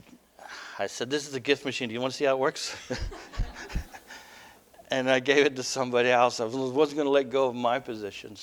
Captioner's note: laughter